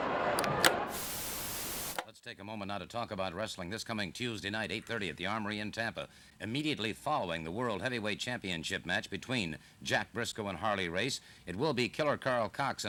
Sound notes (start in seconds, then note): 0.0 static crackles; 0.0 television clicks